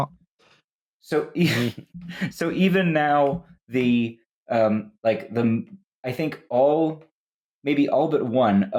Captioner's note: laughs